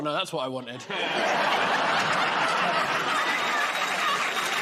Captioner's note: laughter; applause